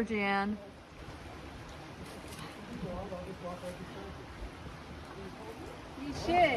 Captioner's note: water flowing